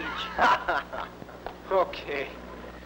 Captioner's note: laughs